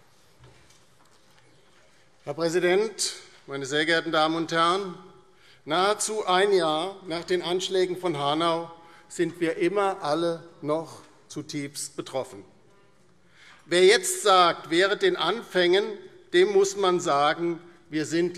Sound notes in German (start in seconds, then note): none